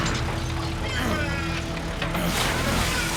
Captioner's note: groaning